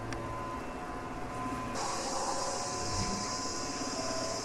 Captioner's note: motors whirring